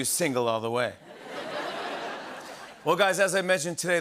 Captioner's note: laughter